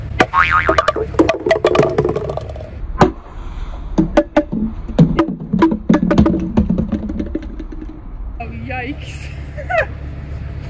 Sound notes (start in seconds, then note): 9.5 laughing